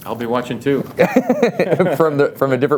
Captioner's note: laughs